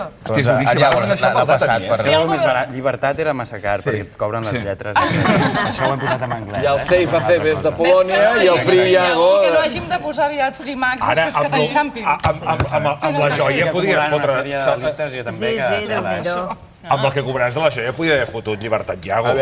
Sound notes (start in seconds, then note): 8.5 in English; 9.9 laughs